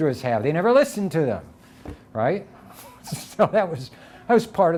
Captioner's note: chuckling